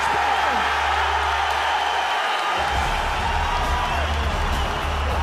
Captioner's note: cheering